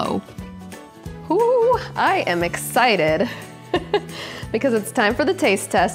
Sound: laughs

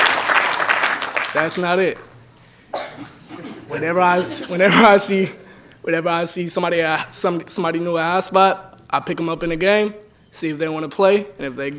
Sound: applause

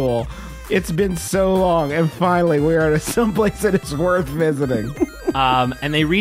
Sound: laughing

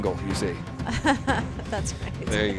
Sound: laughing

